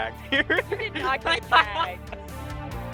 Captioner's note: laughter